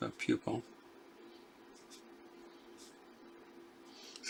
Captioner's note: silence